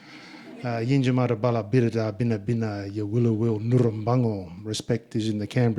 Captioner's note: speaking in Ngunnawal